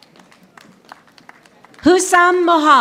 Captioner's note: audience applauding